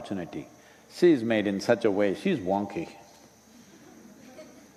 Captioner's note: laughter